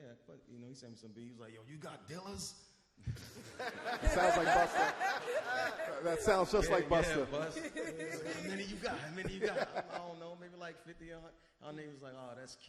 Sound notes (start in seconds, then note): 3.4 all laugh